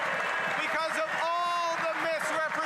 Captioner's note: applause